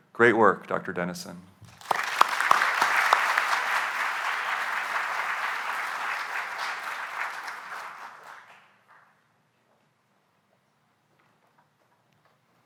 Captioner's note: applause